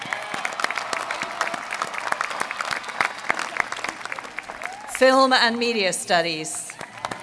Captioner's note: applause